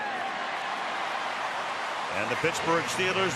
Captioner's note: cheering